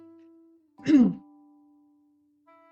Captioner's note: sneeze